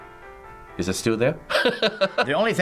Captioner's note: laughs